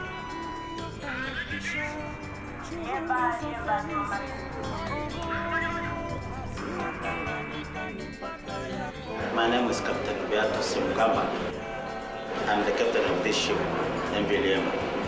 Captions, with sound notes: [ship radio transmission] My name is Captain Beatus Mghamba. I am the captain of this ship, MV Liemba.